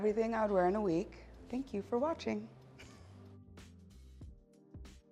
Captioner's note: laughs; soft music plays